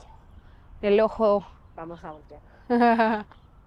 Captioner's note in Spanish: Imita dialecto mexicano